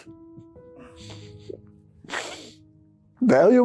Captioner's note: crying